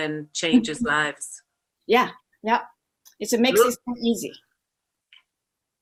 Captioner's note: murmurs